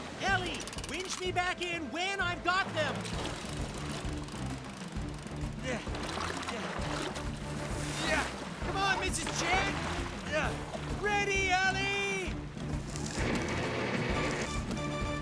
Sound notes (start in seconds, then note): 11.0 shouting; 15.0 suspenseful Music